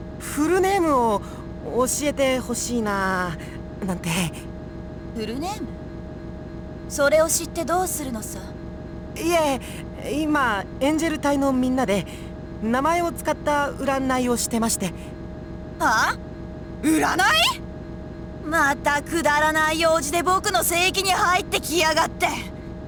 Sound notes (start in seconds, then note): none